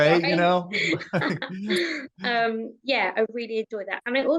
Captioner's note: chuckles; guffaws